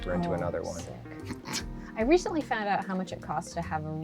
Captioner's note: snickers